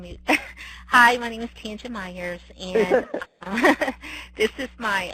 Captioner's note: laughing